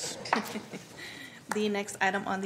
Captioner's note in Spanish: risas